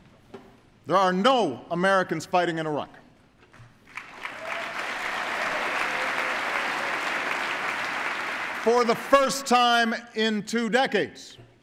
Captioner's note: applause